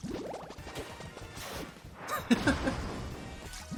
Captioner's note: laughs